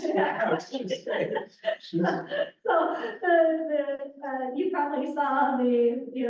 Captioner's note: laughs